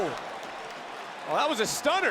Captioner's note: crowd cheers